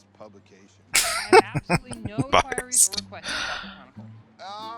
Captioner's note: laughing